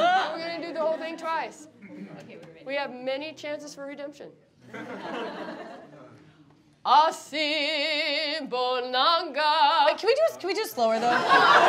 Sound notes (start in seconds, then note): 5.0 laughing; 7.3 singing in foreign language